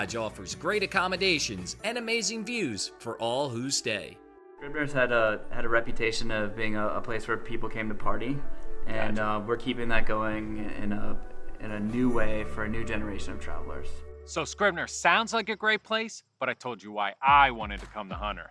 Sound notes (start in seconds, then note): 4.3 male Voice